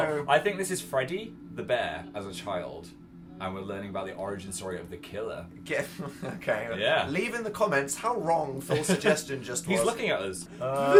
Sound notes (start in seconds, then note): 5.9 laughs